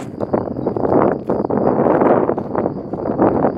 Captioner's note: harsh wind